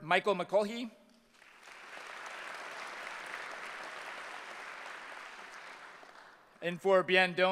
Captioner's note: applause